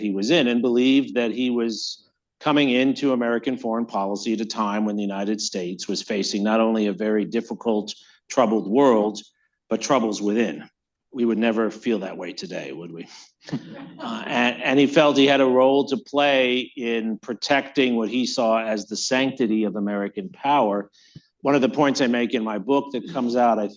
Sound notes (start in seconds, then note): 13.4 laughter